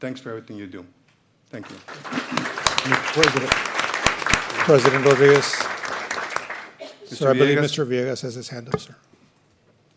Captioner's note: applause